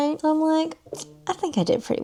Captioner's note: smacks teeth